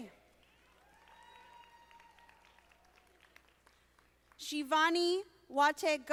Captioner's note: audience applauding